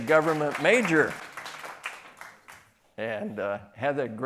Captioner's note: applause